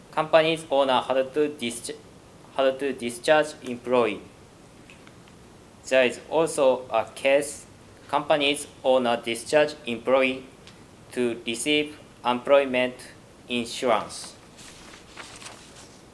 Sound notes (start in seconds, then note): none